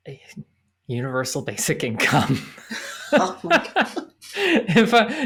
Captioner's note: laughs